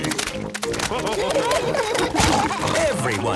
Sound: splashing

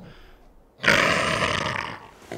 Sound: growls

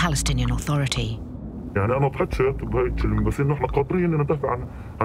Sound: speaking Arabic

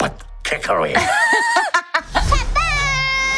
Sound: laughing

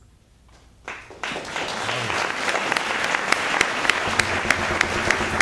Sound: applause

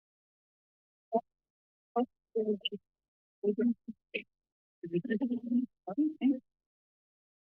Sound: background conversations

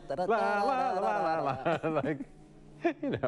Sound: laughter

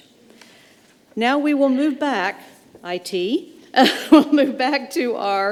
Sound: chuckles

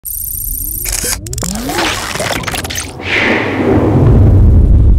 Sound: digital beeping and clicking

